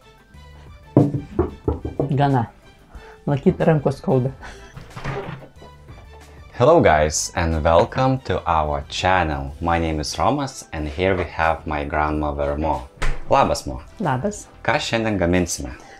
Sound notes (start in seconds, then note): 4.7 opens the fridge in Lithuanian